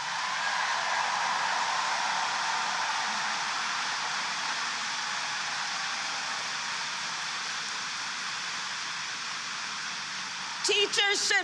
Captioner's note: applause